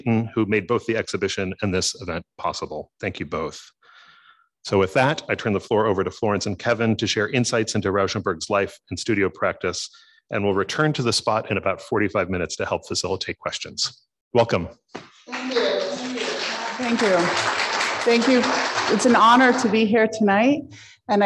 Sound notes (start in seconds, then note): 15.2 audience applauding